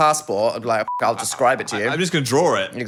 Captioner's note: beep